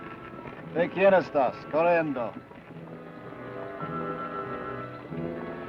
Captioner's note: Ben speaks foreign language